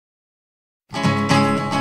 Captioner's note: ominous silence